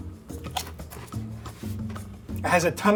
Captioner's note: chip crunching